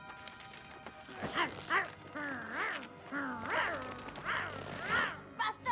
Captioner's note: snarl